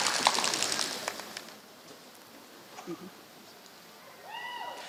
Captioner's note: applause